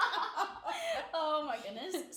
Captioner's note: laughing